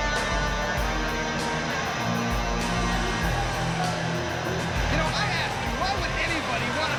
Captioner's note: crowd cheering